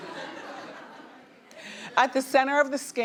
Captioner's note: audience laughing